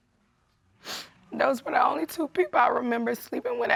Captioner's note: voice breaking